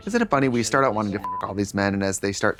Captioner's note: beep